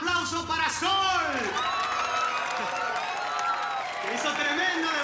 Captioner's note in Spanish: Aplausos